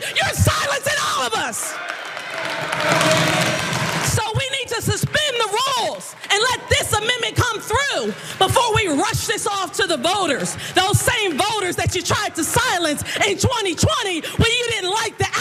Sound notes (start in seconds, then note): 1.6 applause